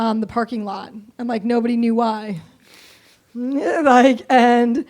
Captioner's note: laughs